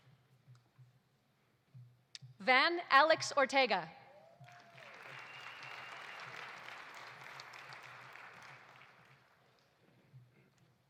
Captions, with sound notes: Van Alex Ortega. (audience applauding) (audience cheering)